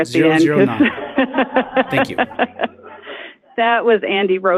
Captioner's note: laughs